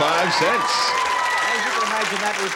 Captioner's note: cheers